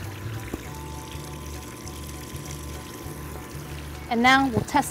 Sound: background music; water running

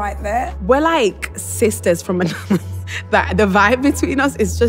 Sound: laughter

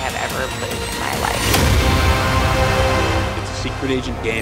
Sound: bombs blast

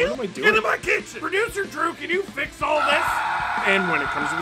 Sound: screaming

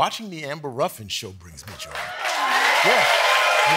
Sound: cheers and applause

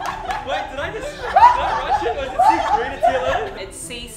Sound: laughs

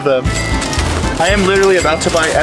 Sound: cash register chiming

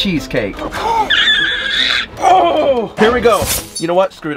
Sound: gasps

